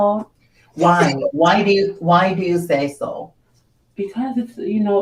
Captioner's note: laughs